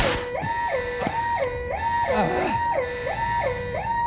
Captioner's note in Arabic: يستمر الصراخ; آهات